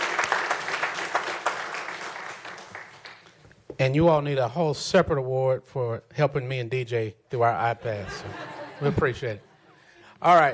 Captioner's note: applause